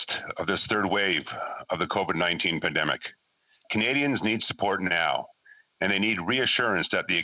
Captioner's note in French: voix de l'interprète